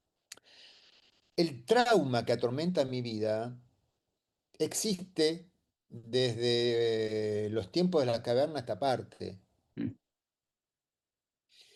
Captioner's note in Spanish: carraspeo